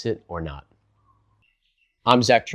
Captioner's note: beat